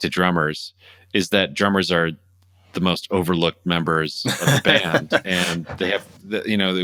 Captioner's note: laughter